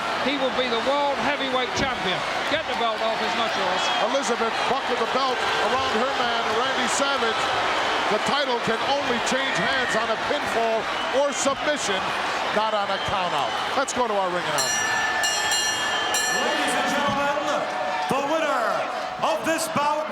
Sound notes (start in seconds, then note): 14.5 bell ringing